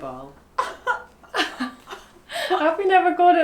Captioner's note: laughs